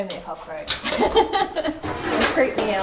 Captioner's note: laughing